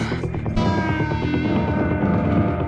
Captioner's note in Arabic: تلهث; موسيقى درامية